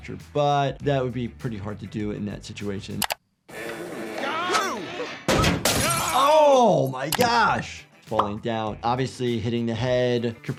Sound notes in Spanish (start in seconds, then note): 3.6 metal crujiendo; 5.3 vidrio roto